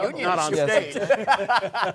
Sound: laughter

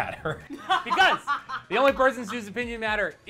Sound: laughs

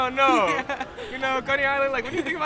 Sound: interviewee giggles

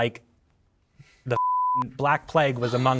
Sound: beep; gasping

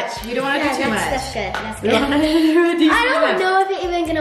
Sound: both chatter

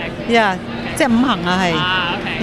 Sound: speaks in foreign language

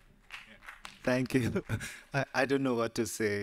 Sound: audience applauding lightly

